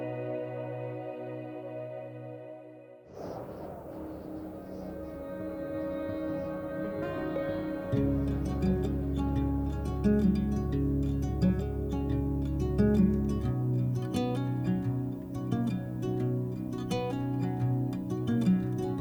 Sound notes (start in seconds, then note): 3.6 wind blowing; 6.0 light upbeat music